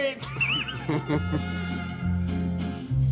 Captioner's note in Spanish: Risas